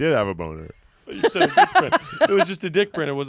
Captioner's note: laughs